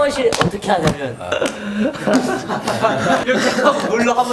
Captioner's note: intense shower